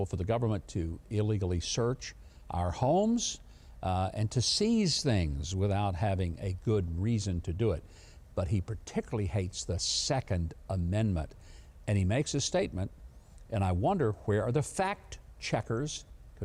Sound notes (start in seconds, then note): none